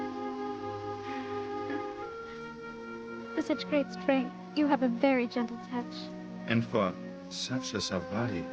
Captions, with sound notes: - (laughs) For such great strength, you have a very gentle touch. - And for such a soft body,